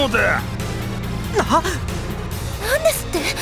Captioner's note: disbelief